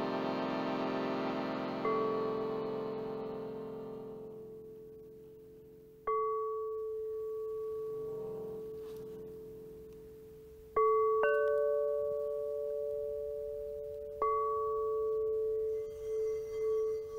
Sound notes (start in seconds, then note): 6.2 ringing